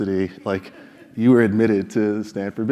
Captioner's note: laugh